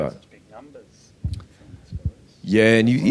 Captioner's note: speaking faintly